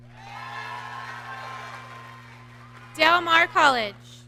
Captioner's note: audience cheering